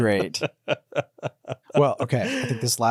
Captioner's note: laughing